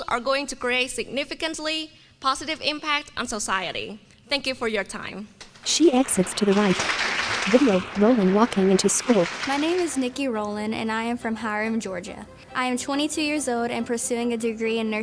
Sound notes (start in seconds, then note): 5.5 applause